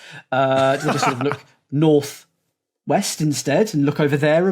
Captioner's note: laughs